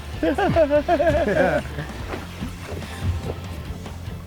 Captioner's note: anglers laughing